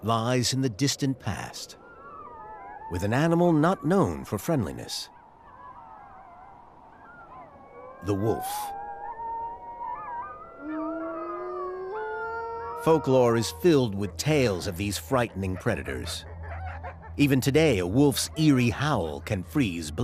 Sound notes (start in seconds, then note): 5.1 wolves howling; 10.8 howling; 19.8 howls